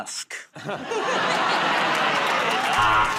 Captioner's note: laughter; buzzer